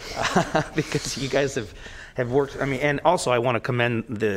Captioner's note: laughter